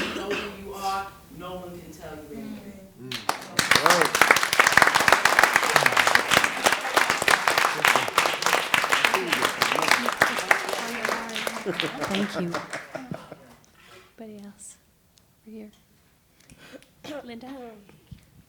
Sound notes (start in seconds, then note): 3.0 applause; 16.0 someone clearing throat